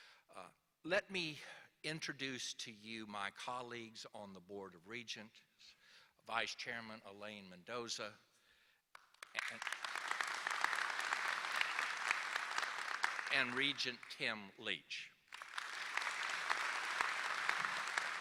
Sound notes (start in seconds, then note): 8.9 applause